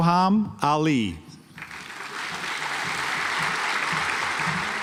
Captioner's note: audience applauds